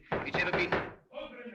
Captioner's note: طرق على الباب